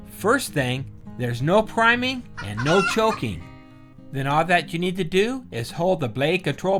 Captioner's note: a chicken squawks